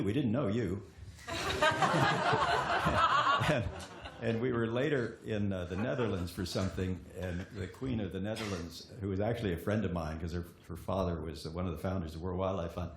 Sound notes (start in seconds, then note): 1.2 laughter